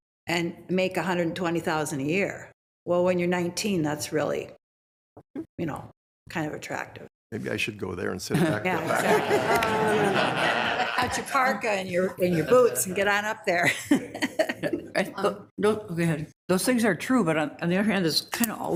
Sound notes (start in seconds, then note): 9.5 attendees laughing; 14.8 laughs